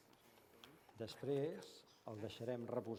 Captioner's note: non-english speech